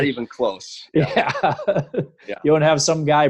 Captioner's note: laughing